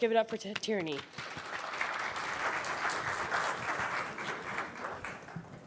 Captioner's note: crowd applauds